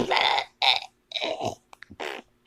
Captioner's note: barfing